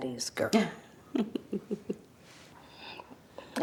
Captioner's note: Beverly laughs